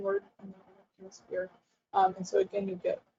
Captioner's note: audio drops out